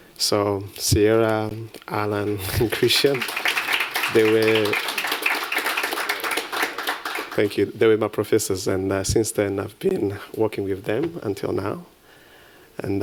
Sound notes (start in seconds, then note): 4.9 applause